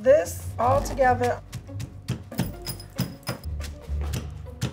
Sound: mortar banging

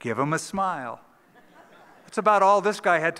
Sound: laughter

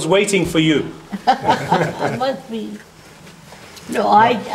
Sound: laughter

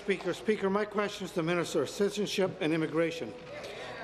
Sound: applause

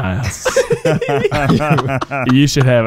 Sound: laughing

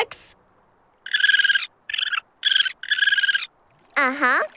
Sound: squeaking

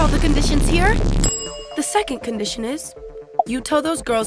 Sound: shout

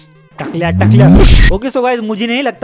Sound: smash

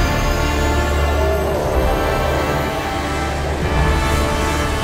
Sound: creature groans

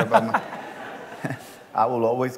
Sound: laughter

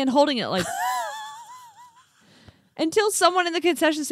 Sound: laughs

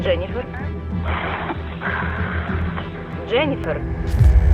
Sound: woman 1 breathing heavily; solemn music playing

